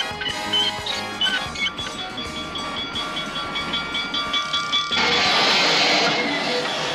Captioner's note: bell ringing